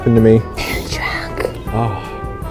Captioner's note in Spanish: susurro